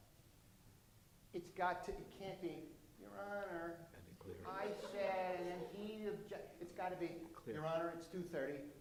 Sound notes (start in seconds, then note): 3.5 whining; 6.1 laughing